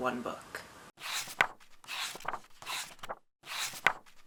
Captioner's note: pages turning